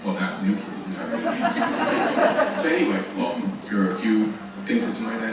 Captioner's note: audience laughing